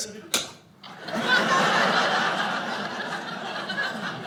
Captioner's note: audience laughter